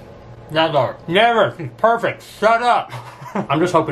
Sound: laughs

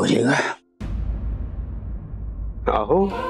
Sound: atmospheric sound

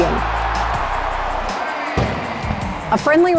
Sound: crowd roars

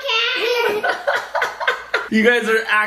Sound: dad laughs

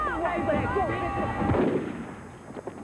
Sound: gunshot

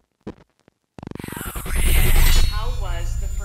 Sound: creepy Voice

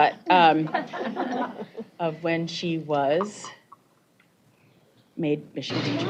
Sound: laughter

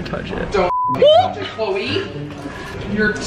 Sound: beep

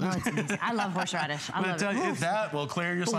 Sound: laughter

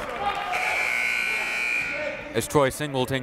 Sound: buzzer

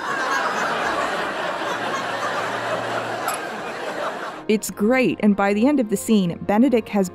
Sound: glasses clink

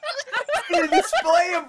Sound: laughing

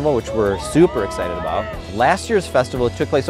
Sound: crowd cheering

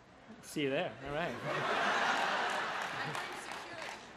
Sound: crowd laughs

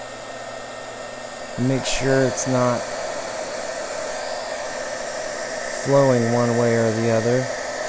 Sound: sound of embossing tool or small heat gun

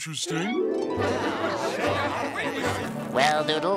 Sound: crowd murmuring

